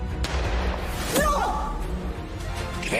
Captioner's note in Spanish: Disparo